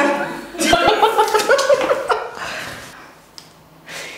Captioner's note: both laugh